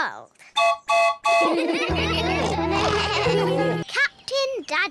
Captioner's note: toots horn; all laugh